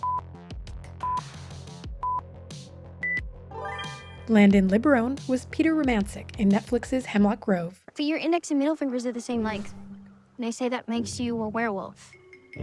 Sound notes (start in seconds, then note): none